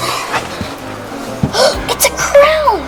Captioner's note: assistant gasps